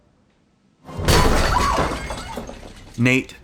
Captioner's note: crash